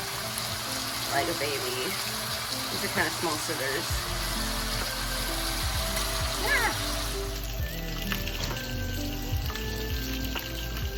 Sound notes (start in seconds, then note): 8.1 wet sizzling